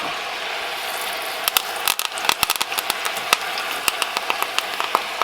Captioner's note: lettuce popping